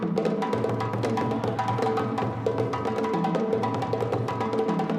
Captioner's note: people chattering